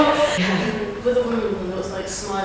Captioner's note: laughs